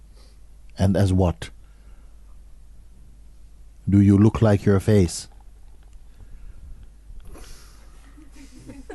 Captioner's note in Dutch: gelach